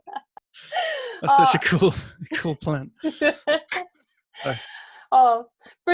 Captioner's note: laughing